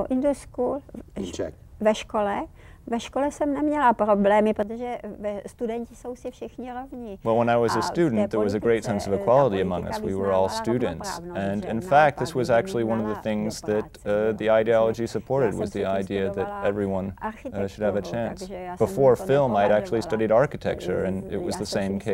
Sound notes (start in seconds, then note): 2.8 Vera in Czech